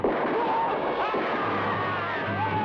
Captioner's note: men shout; man shouts